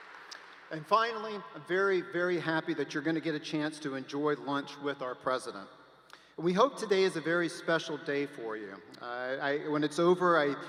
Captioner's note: applause